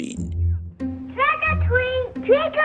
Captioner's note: soundbite of archived recording